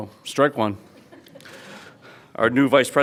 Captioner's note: laughs